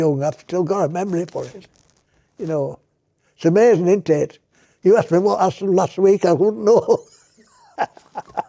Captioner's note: laughs